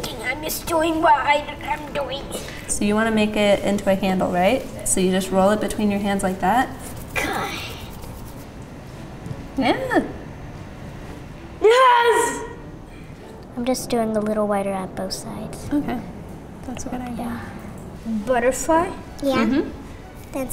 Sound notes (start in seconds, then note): 7.7 hands whooshing